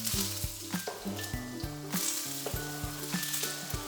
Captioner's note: oil sizzling